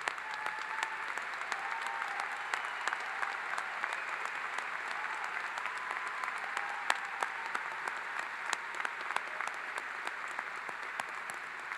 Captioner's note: applause